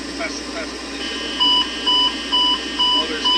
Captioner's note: overspeeed Alarm